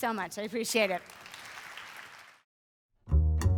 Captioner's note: applause